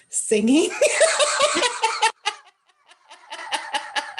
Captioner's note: laughter